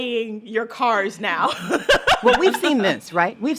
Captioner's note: laughter